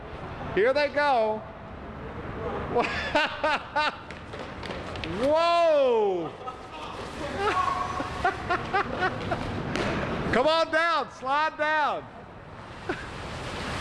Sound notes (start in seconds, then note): 2.8 huell laughing; 5.9 huell laughing